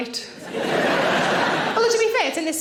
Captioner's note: audience laughing